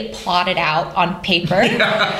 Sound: laughter

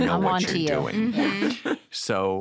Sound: laughter

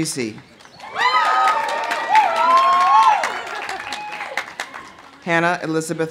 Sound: audience applauding; audience cheering

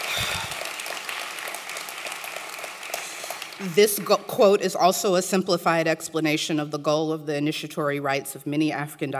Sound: applause

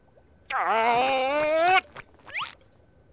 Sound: groaning

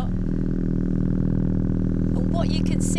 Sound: vibrating sound continues

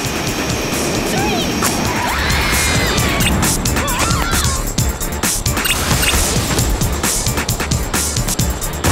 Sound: screams; explosion

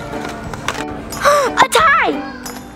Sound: gasps

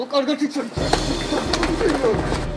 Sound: punches

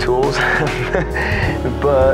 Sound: laughs

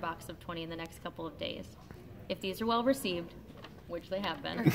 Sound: laughter

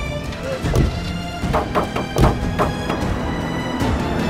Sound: thumping sound

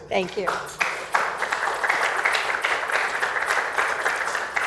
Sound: applause

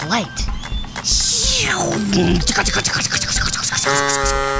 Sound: zoom and engine sounds; horn

